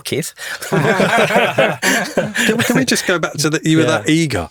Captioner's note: all laugh